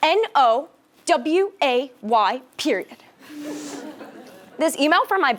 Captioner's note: laugh